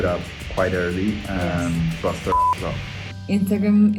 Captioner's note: beeps